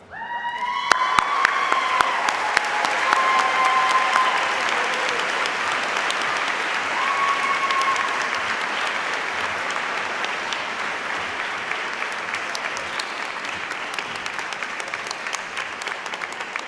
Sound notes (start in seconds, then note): 4.1 cheers and applause